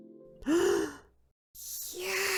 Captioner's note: gasp